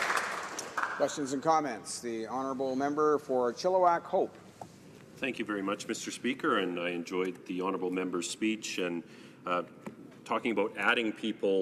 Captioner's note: applause